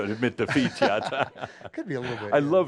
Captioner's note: they chuckle